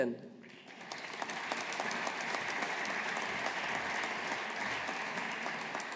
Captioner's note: audience applauding